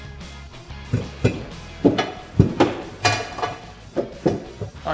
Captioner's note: banging metal